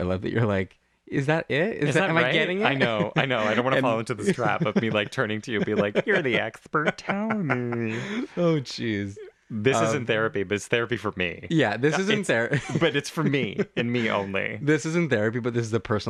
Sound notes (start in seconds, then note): 7.1 laugh